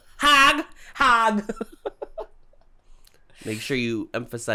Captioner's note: chuckles